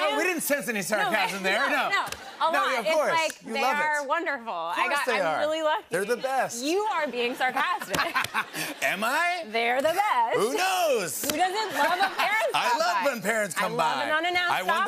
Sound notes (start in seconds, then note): 7.6 laughs